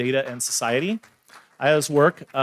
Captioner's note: audience members applauding